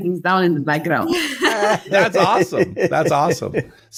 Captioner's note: all laugh